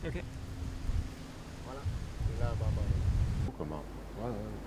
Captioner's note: speaking French